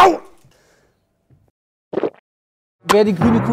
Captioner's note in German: Schluckgeräusch